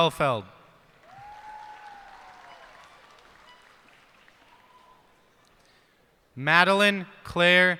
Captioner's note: cheers and applause